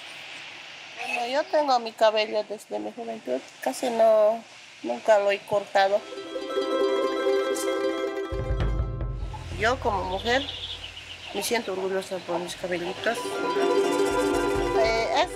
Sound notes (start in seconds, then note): 1.5 speaking in foreign language; 6.0 bright music; 10.2 speaking in foreign language